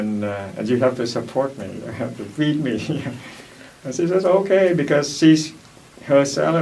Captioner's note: laughs